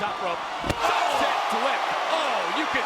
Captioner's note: crowd groaning